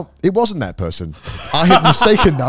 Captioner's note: laughing